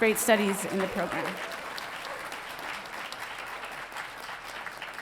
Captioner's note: audience applauding